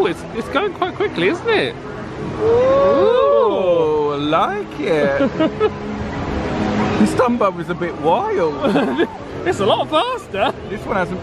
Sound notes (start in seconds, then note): 4.9 laughs; 8.6 laughs